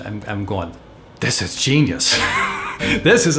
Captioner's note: laughs